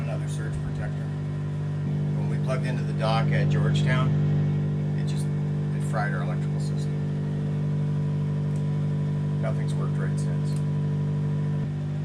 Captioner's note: generator noise